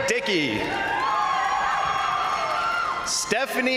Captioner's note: crowd cheering; crowd applauding